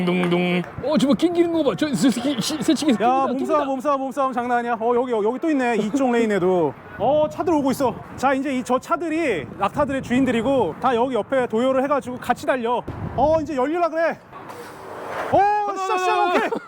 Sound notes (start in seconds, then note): 2.0 camels fighting